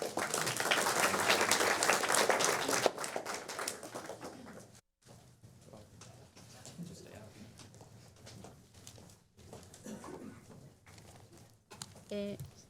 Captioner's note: applause